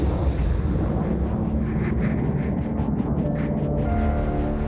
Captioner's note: whooshing